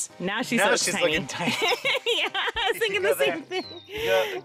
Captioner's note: laughter